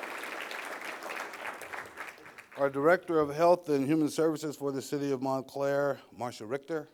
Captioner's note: applause